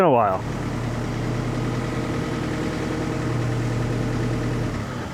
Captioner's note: engine rumbling